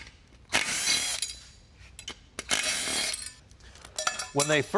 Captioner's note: screwdriver whirring